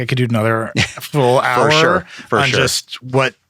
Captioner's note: laughing